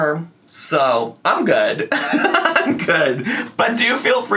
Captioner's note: laughs